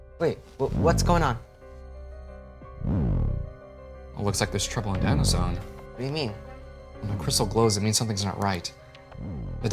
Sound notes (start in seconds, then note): 1.4 crystal beaming